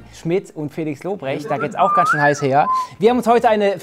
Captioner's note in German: Pfeifen